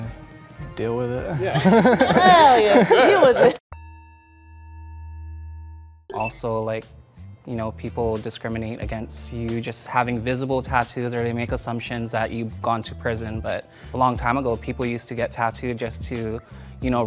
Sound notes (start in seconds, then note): 1.2 people laughing; 1.4 laughing; 4.0 bell sounding